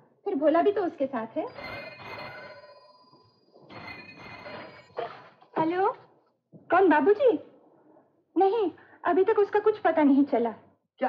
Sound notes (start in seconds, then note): 3.7 phone Ringing